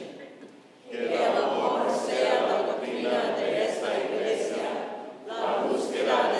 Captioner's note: congregation praying in Spanish